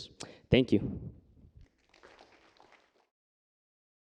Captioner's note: applause